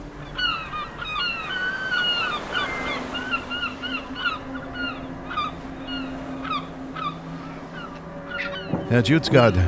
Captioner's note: seagulls, waves crashing against rocks